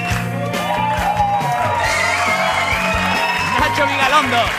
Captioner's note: applause